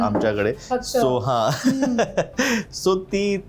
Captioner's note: laughs